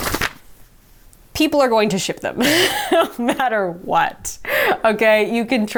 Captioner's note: laughing